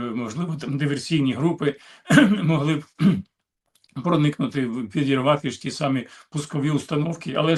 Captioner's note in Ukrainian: прочищення горла